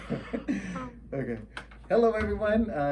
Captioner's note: laughs